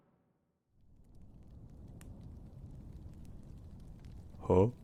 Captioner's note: distant fireplace crackle